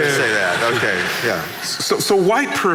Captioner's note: laughing